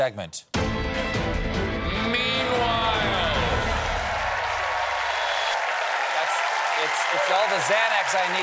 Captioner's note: cheers and applause